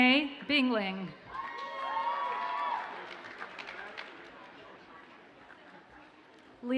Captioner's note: audience cheers and applauds